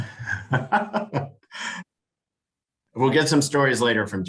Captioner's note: laughing